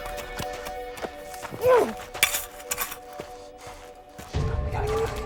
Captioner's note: Max growls